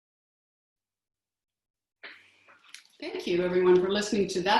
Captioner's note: silence